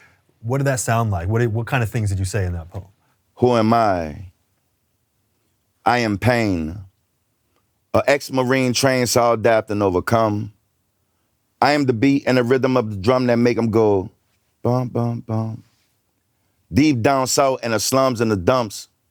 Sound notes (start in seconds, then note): 3.3 reciting poetry